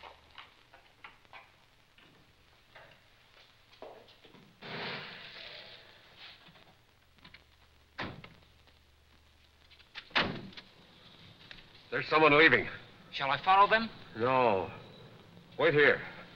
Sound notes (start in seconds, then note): 5.1 tires crackling; 10.0 door slamming